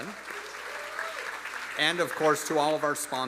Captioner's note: audience applauding; audience cheering